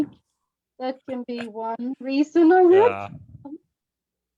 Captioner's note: chuckles